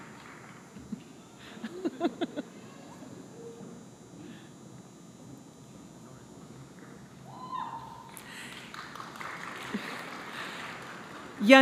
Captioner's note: applause